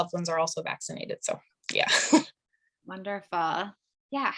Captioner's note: chuckling